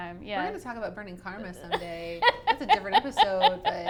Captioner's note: laughs